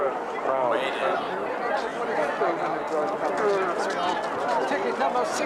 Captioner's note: kerumunan berteriak